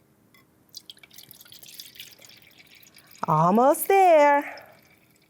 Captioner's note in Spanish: salpicaduras de agua